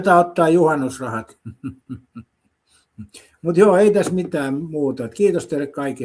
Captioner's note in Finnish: naurua